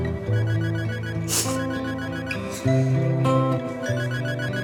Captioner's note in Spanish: Sollozos; Suena el celular